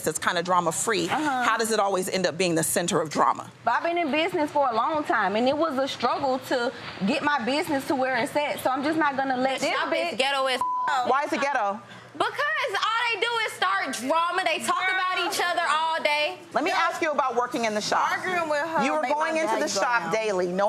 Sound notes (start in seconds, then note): 10.6 beep